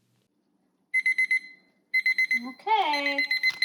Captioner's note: alarm beeping